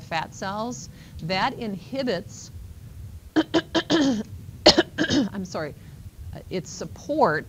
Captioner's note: clearing throat